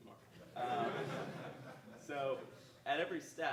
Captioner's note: audience laughing